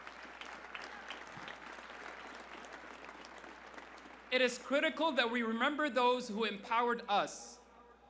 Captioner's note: applause